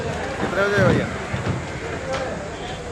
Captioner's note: indistinct chatters